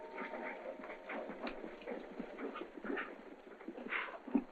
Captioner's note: hooves clopping